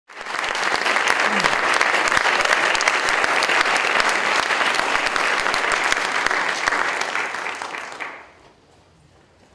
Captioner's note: audience Applause